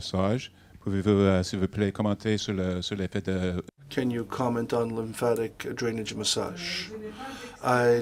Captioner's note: speaking French 0:57:59-0:58:00